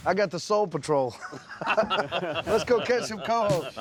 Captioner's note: laughter